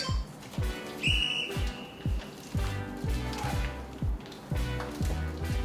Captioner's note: whistle shrilling